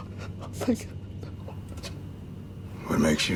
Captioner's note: Michael sobbing